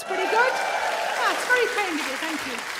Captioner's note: audience cheering